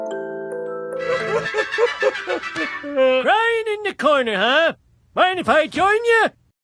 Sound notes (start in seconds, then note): 2.5 sobbing